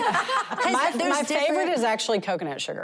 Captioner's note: laughter